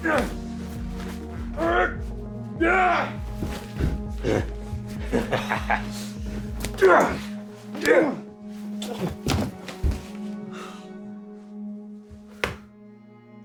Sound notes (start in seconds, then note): 0.8 people groaning; 5.0 boy laughing; 5.7 Tim groaning; 11.4 tense music